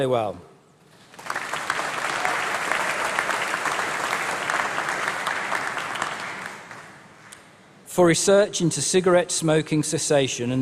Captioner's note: applause